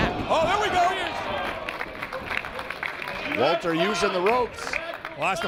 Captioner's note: applause